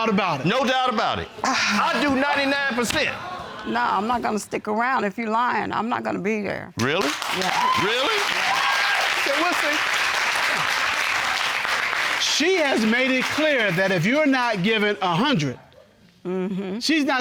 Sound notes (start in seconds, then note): 9.3 audience applauding